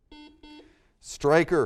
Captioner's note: buzzer